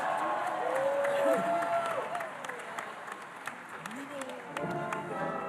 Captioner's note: audience applauding and cheering; jaunty music